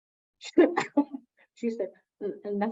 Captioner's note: laughs